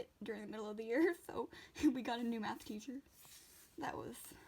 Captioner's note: laughs